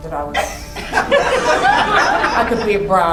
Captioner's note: crowd laughing